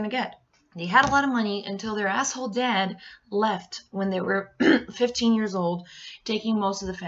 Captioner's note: cough